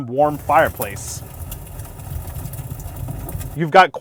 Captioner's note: soothing sound